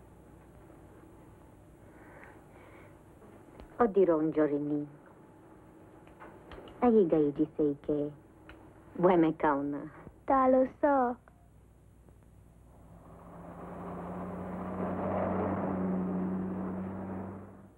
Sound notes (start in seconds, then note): 3.4 speaking foreign language; 12.7 car rumbles